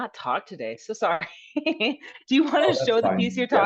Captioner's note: laughs